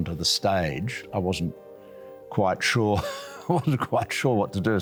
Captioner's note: laughs